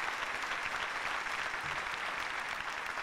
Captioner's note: applause